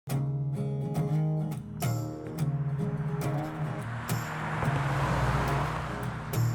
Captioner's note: gentle guitar music; car whooshing